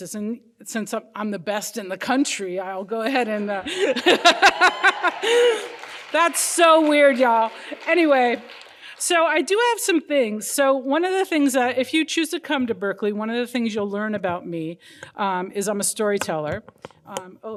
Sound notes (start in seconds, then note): 3.6 laughing; 3.6 crowd cheering